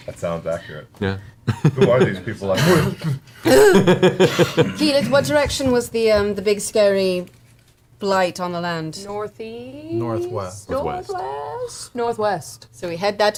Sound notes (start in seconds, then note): 4.3 gasps